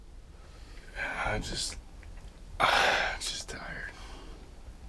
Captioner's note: exhales sharply